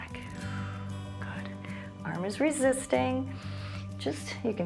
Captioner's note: exhales; inhales